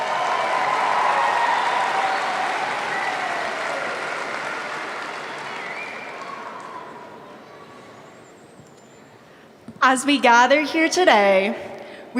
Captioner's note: applause